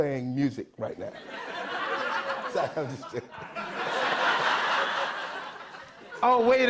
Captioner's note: laughter